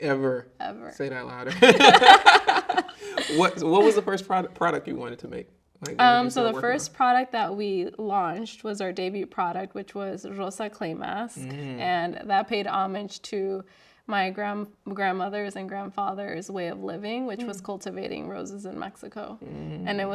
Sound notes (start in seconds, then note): 1.5 both laughing